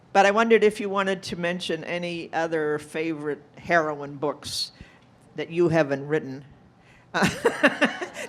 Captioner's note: laughing